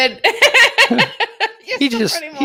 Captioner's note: laughing